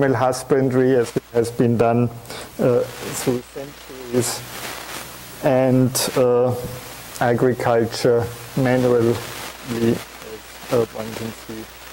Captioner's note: audio static